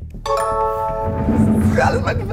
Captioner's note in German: Klingeln